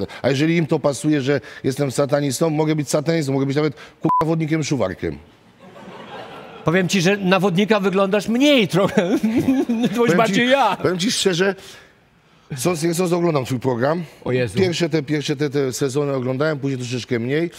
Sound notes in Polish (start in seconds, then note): 5.6 śmiech